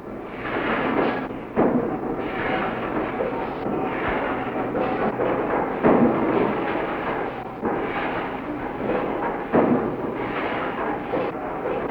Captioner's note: sound of machinery on an assembly line